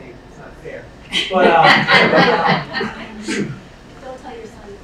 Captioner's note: laughing